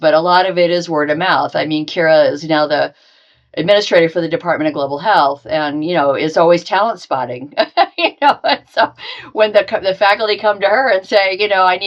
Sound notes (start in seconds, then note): 7.4 laughing